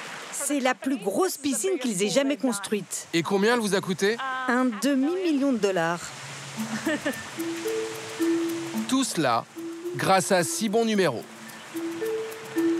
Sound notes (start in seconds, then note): 6.6 laughs